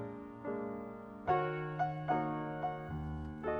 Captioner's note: none